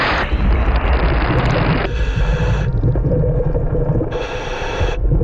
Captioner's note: heavy breathing